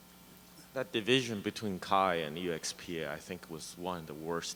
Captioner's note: voiceover